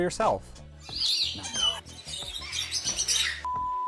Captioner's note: birds chirping